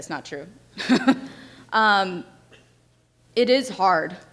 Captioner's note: laughs